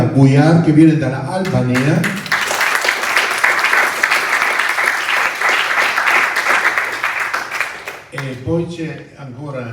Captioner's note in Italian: Applauso